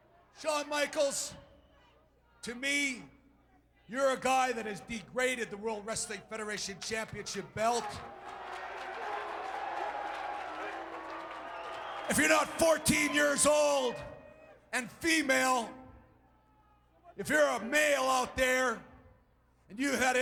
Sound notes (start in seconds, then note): 7.6 applause